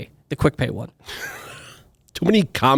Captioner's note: laughs